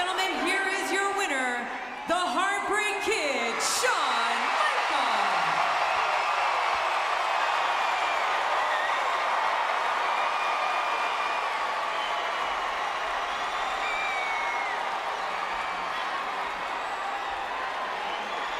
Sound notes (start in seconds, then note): 11.1 applause